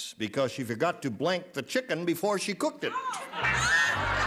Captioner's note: laughter